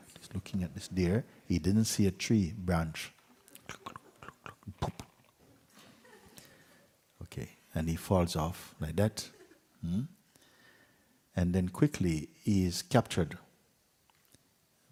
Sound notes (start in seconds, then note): 3.8 slow horse riding sounds